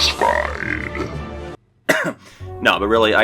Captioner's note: cough